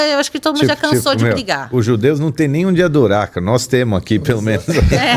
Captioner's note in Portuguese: risadas